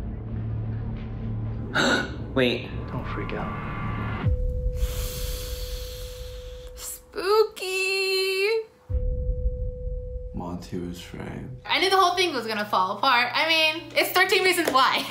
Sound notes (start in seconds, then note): 1.6 gasps; 4.6 sucks in breath